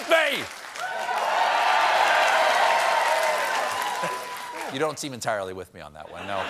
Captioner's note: cheers and applause